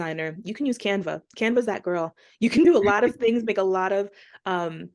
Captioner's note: laughter